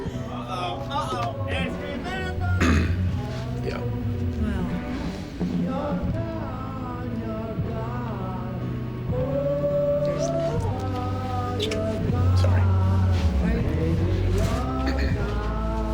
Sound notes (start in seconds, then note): 2.6 clears throat; 14.8 clears throat; 15.6 blues music playing